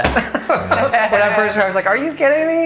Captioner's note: laughing